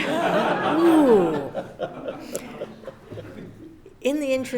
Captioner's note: audience laughs